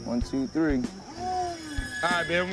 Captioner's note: moans